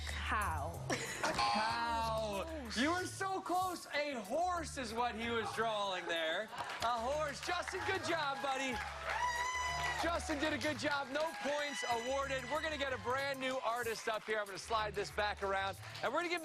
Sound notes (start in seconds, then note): 8.7 cheers and applause